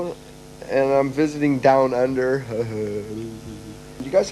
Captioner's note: chuckling softly